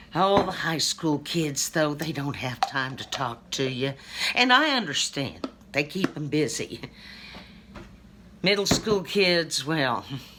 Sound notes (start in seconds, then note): none